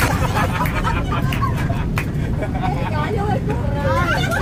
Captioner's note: laughter